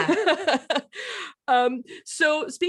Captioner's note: laughs